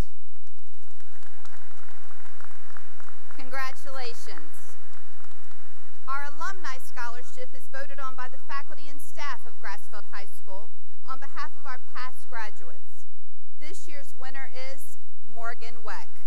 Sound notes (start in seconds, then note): 0.5 cheering and applause; 4.7 applause